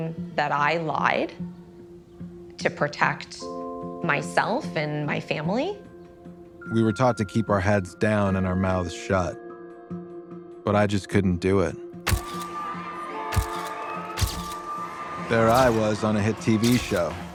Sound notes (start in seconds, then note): 12.1 people cheering; 13.3 cameras clicking